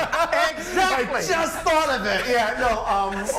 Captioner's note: laughter